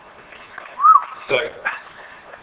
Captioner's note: whistles